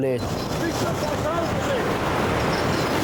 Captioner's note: wind drowns out speaker; water whooshing; wind whooshing